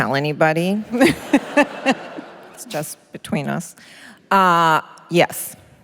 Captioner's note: laughter